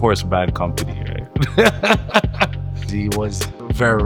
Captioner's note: laughs